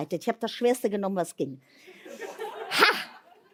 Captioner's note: laughter